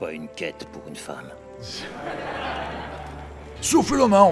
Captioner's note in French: Rire